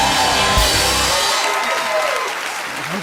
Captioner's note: cheers and applause; cheering continues